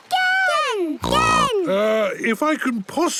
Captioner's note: snorts